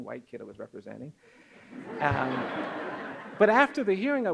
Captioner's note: audience laughs